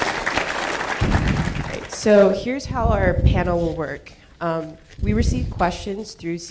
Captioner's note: applause